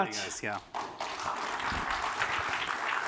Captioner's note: applause